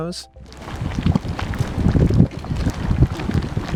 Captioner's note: bubbling